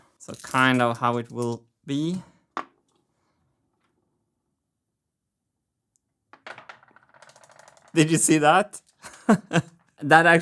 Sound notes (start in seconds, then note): 3.4 marble rolls; 9.1 laughs